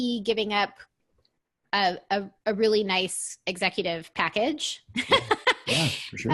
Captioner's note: laughs